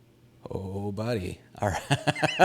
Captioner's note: laughs